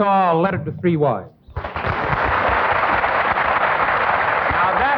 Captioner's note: audience clapping